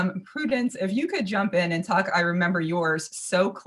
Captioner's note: none